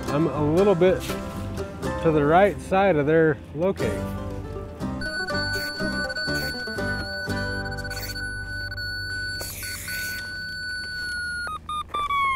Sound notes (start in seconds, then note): 4.7 upbeat music; 5.0 machine squealing